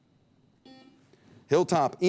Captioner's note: buzzer beep